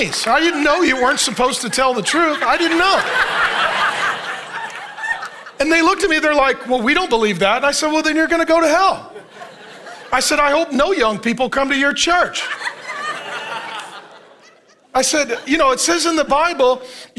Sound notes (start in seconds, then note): 0.0 congregation applauding; 3.6 congregation laughing; 12.1 congregation laughing